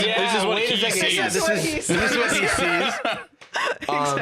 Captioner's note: laughing